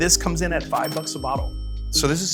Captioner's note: register bell rings